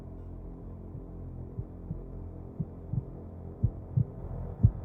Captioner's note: A heart beat